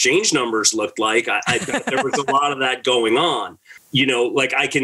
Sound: laughs

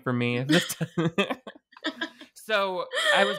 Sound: both laughing

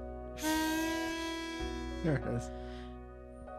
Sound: toooot

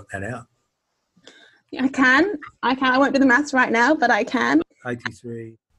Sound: laughs

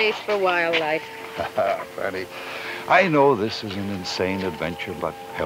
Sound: laughs

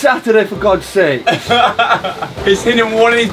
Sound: laughs

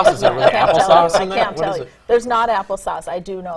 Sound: laughter

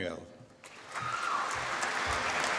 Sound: applause

